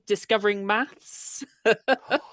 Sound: laughs

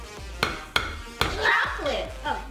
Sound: banging

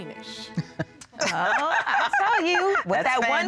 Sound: laughter

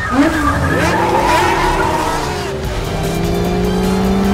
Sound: tires squealing; engines revving; dramatic music

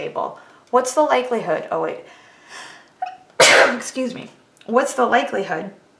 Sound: coughs

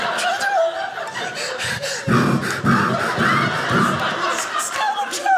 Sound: breathing heavily

